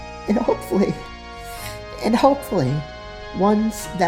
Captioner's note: sniffle